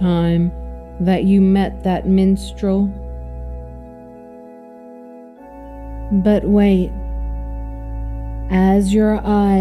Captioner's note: speaking calmly again